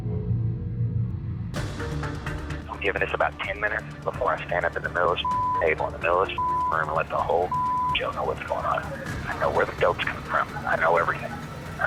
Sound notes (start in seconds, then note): 6.3 beep